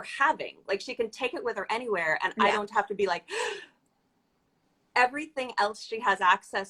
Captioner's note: gasp